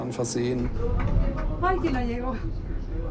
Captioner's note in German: Sie spricht spanisch